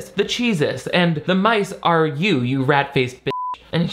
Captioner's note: beep